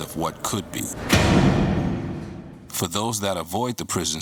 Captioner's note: banging